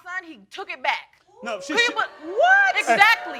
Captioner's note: crowd oohing